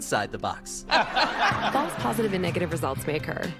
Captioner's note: audience: laugh track